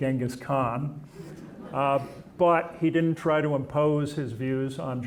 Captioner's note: audience chuckling